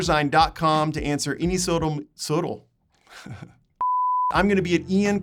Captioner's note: beeping